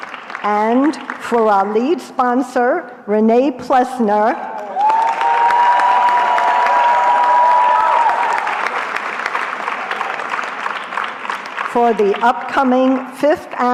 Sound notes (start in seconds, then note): 0.0 applause; 4.4 cheering